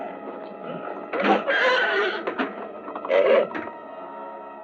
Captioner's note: horse neighing